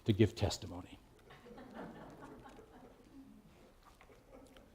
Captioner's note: laughter